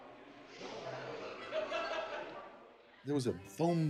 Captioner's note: laughter